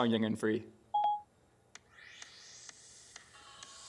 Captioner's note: beeps